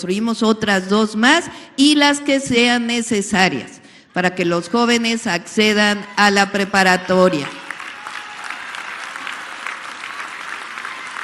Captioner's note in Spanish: aplausos